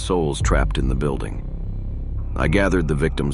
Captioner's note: none